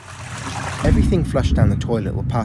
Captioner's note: muted whooshing